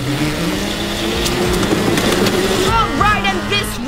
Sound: engines revving

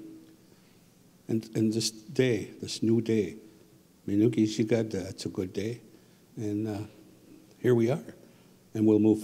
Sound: speaking Ojibwe

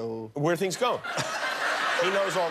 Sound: laughter

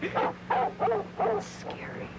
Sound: laughing; dog barking

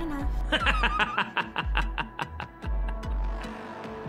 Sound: laughter

